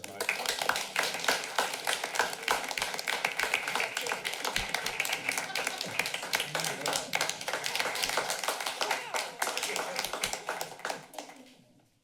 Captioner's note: applause